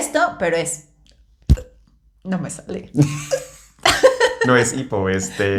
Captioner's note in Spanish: Burp